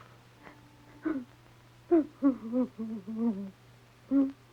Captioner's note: crying